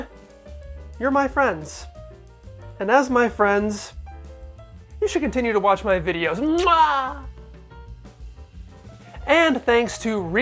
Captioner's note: muah